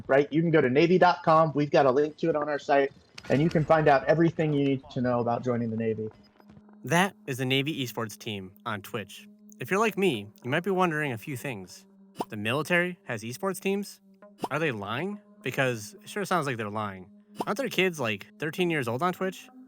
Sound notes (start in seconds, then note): 6.8 voiceover